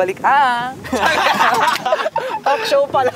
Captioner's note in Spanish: campistas riendo